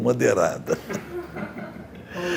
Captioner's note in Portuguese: risos